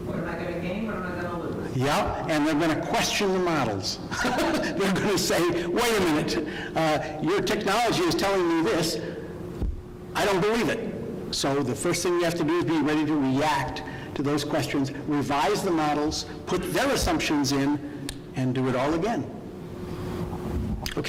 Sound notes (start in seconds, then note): 4.1 laughing